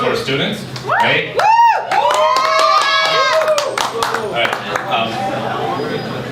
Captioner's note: applause